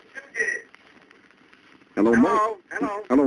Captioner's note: on phone